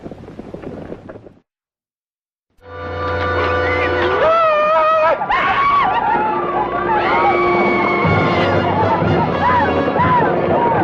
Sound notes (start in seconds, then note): 2.6 dramatic orchestral music; 3.5 Red Hawk howls